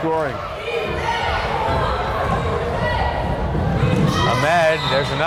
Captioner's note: crowd chanting defense